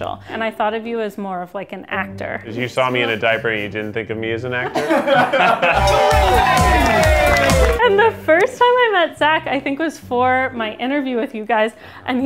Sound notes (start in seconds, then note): 4.6 laughter; 5.6 techno music